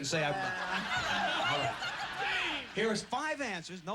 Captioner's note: laughter